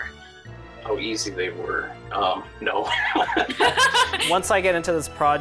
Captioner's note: laughing